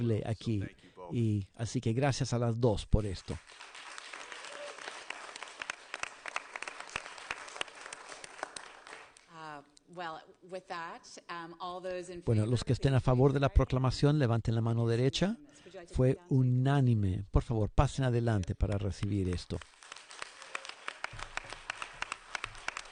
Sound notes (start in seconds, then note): 7.5 applause